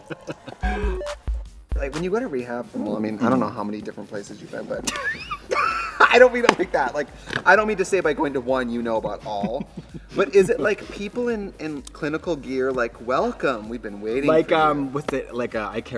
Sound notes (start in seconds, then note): 0.0 Katya laughs; 4.8 both laugh; 9.3 Katya giggles